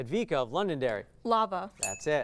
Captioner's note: ding